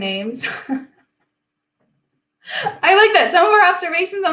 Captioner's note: laughing